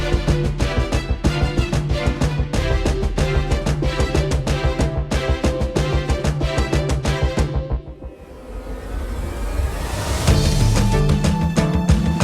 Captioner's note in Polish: Aplauz